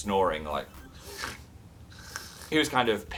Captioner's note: snoring noises